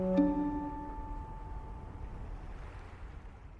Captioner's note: pensive music; boat droning; water whooshing